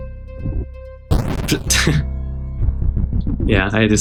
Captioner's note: laughs